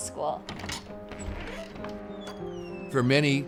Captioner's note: door creaking